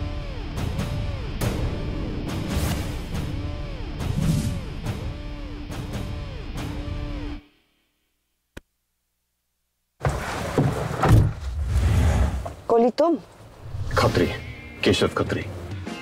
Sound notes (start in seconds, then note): 11.0 Jeep door closes